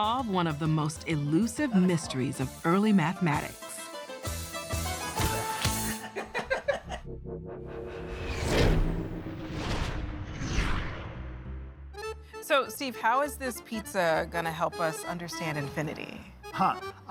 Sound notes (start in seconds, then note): 5.9 both laugh